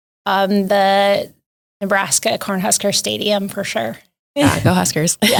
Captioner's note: laughs